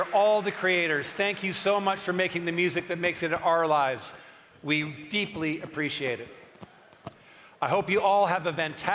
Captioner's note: cheering and applause